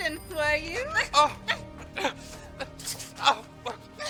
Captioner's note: struggles and gasps